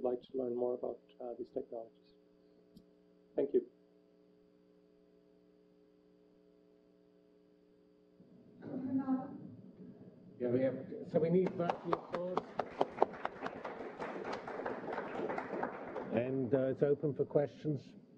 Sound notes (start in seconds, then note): 3.7 pause; 11.4 clapping